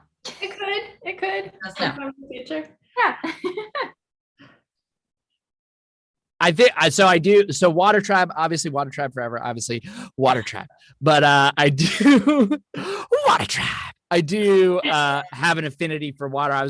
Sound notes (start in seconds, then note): 3.1 laughs; 10.2 laughs